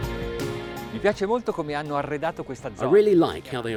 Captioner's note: speaking in foreign language